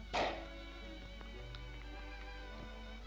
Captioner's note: cork pops